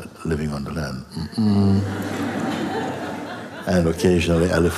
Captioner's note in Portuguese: som de alerta seguido de risos